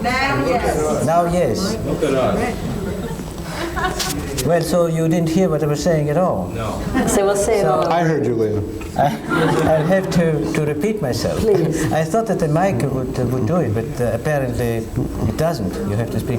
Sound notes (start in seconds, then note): 8.9 laughing; 8.9 murmuring